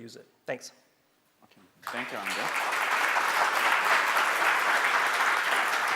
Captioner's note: audience applauding